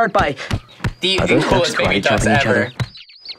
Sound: thudding sounds

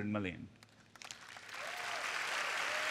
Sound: applause

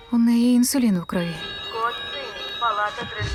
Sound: voice over PA; alarm beeping

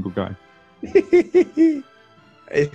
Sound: laughing

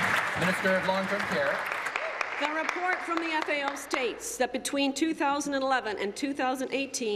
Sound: applause

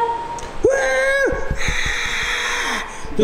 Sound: cheers

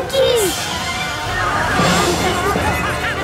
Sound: chattering

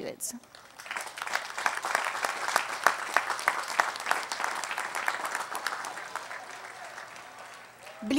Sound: applause

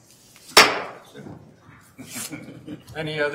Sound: gavel bangs

